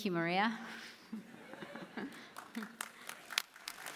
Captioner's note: applause